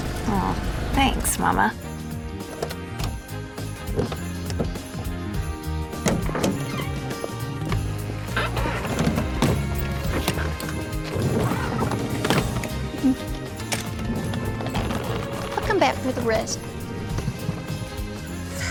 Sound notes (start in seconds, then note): 9.5 suitcases thudding; 18.5 sighs